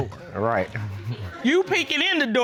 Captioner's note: chuckles